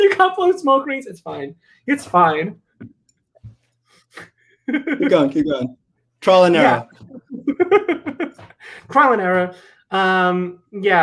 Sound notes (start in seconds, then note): 2.7 laughs